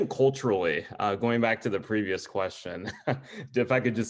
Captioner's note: chuckles